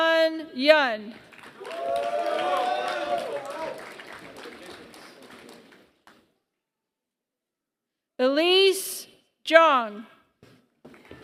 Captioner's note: applause; applause